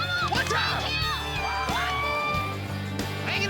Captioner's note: cheering